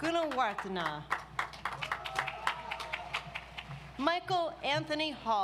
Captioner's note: audience applauds